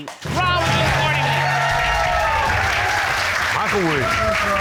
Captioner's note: audience cheering